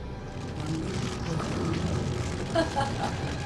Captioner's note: fire crackling; Zilia laughing